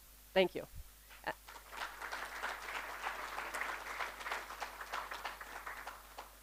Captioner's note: applause